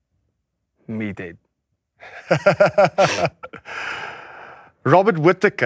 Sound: laughs

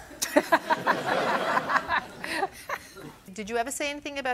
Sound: laughter

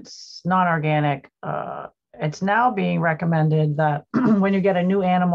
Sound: clears throat

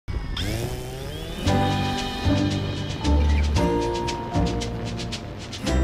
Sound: drone start-up sound and music

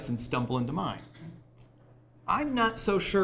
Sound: none

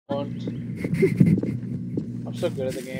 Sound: rat Goblin Laugh

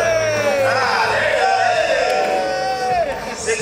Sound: exclaiming

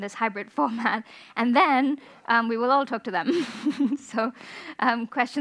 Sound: chuckles

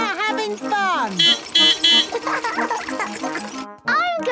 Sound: beeping; laughing

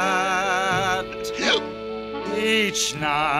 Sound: hiccup

